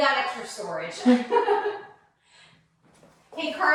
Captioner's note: laughs